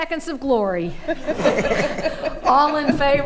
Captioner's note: attendees laughing